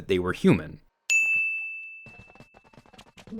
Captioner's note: bell chimes; feet thudding